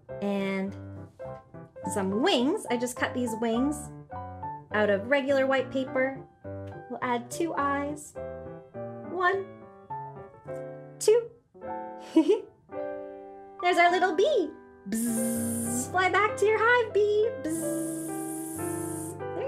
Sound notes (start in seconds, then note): 12.1 giggles; 14.9 buzzing; 17.5 buzzing